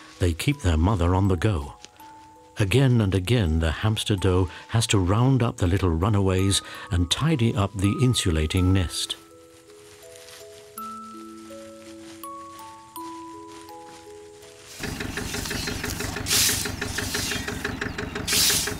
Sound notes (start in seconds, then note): 10.7 twinkling music; 14.2 tractor rumbles